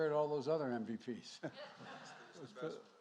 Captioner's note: laughter